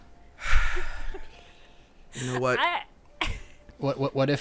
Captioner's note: laughing; sighing